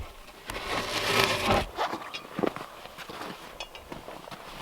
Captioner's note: log scraping